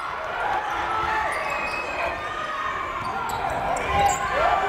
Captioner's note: yelling